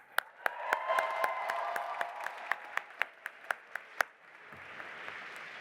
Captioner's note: audience applauding and cheering